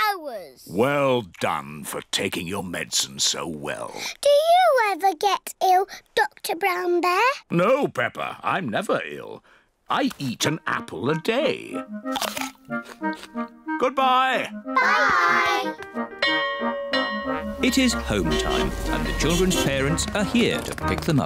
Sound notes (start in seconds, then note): 16.2 bell rings